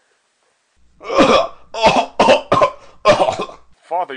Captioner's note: cough, cough, cough, cough, cough, cough, cough!